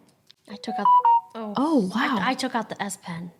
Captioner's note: phone beeps